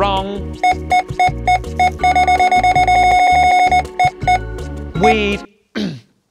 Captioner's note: scanner beeping repeatedly